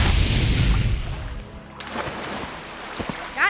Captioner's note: splashing sounds, even though nothing has landed in the water